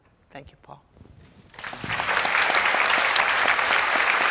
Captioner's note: applause